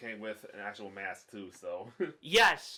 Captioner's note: chuckles